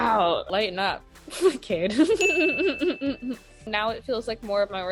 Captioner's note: chuckles